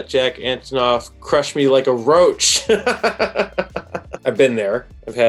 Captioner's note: laughs